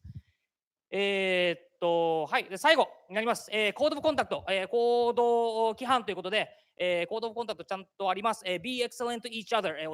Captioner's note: speaking japanese